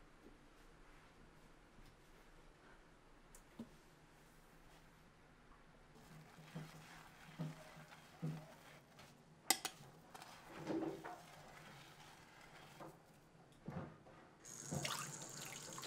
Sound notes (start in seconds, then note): 14.4 water running